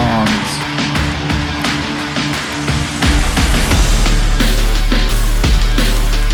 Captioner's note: crowd cheering; tense dramatic music